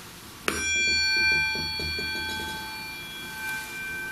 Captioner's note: bowl dings